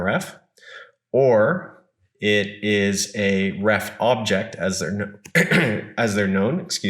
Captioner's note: clears throat